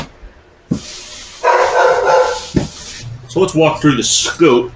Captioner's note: dog Barking